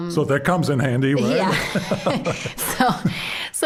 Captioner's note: both laughing